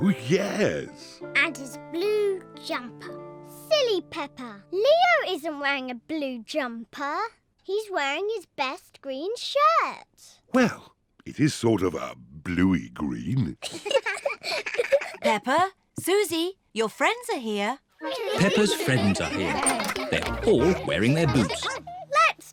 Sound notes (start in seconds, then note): 13.6 both giggle